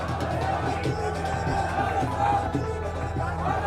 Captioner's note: crowd chanting in Punjabi